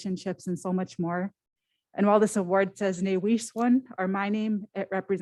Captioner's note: foreign language